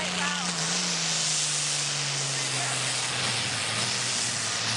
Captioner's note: loud tractor engine